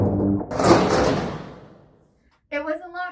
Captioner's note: door falls